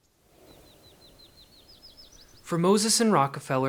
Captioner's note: birds singing